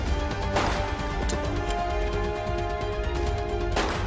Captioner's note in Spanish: Disparo